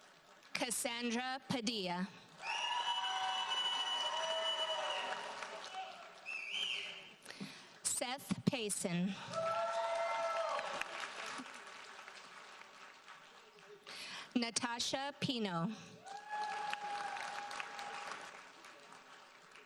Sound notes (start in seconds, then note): 2.4 audience cheers and applauds; 9.2 audience cheers and applauds; 16.0 audience applauds